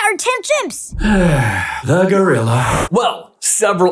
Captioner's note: sigh